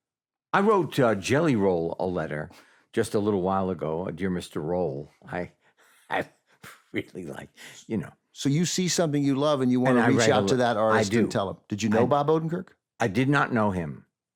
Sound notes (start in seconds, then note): 5.0 laughs